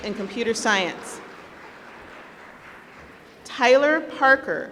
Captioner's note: applause